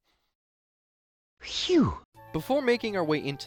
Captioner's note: phew